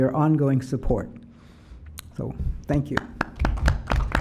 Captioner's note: applause